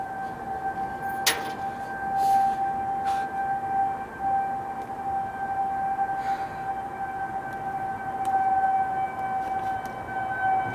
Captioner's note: weather siren